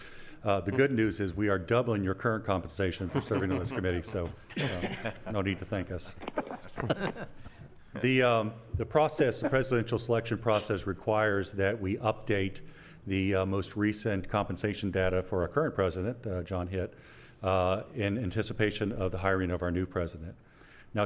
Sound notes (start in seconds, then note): 6.3 laughing